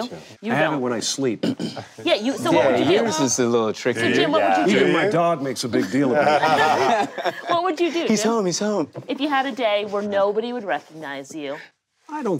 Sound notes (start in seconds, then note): 5.6 group laughing